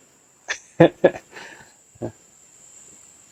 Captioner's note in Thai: เสียงหัวเราะ